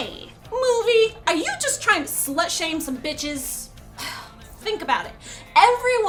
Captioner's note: sigh